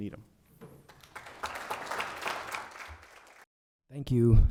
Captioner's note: audience applauding